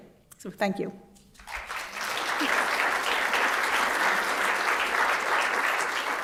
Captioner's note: applause